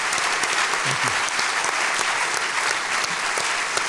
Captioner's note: applause